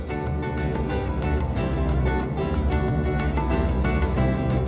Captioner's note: airplane engine